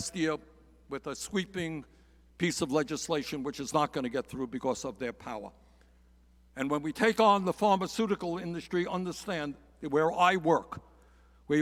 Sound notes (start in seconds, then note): none